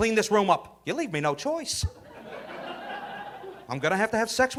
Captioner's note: audience laughing